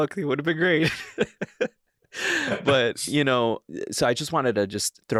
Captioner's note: laughing